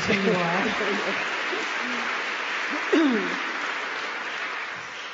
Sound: applause

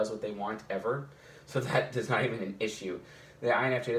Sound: chuckles

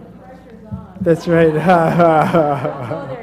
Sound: laugh

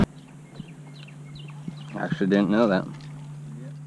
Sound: birds chirping

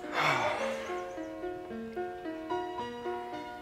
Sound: Trent sighing

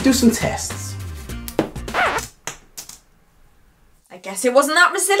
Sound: spaghetti cracking

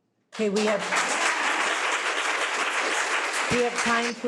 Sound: audience applauding

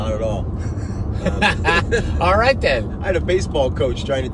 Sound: laughing

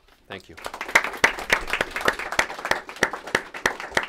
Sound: applause

